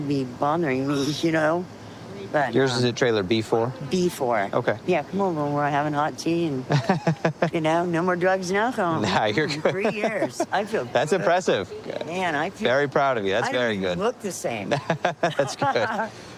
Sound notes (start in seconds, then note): 6.7 laughs; 14.6 laughing